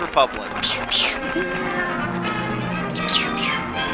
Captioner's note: applause; space battle noises